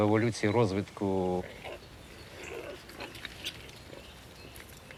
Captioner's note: boars oinking, birds chirping